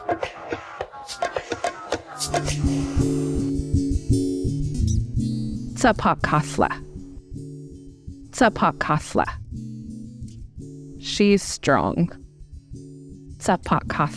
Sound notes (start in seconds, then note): 0.0 soft drumming; 3.2 soft music; 6.4 speaker speaking Native American language; 13.9 speaker speaking in Native American language